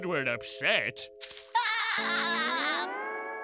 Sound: laughing

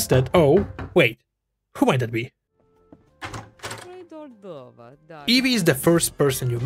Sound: cue dramatic door creak

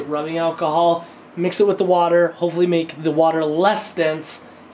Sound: none

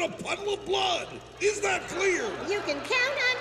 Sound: laughter

